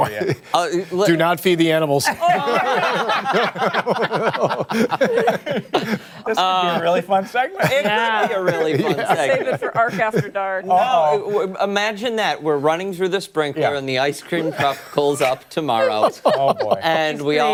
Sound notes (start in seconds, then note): 7.6 laughter